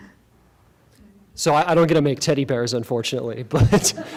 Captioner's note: laughing